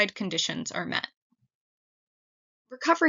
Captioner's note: pause